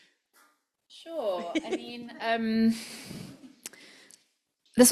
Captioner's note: laughs